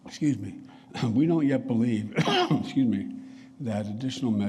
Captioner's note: coughs